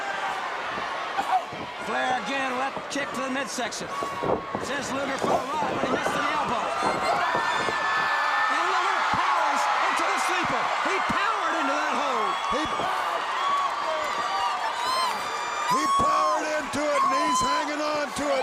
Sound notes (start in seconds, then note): 12.6 crowd cheering